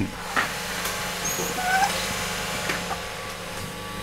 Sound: squeaking

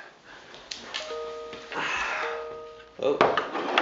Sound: email notifications

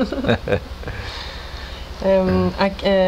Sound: laughts

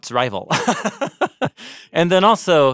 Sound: chuckling

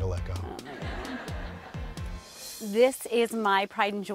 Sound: crowd laughs

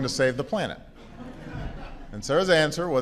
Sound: laughter

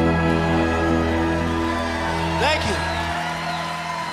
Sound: audience cheering

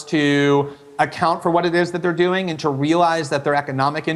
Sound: none

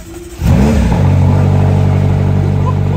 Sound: engine running

